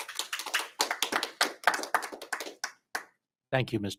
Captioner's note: audience applauding